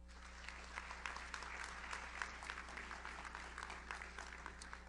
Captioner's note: audience applauds